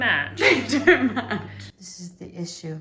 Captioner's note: laughs